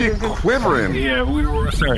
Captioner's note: shudders intermittently